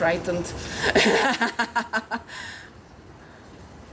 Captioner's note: laughs maniacally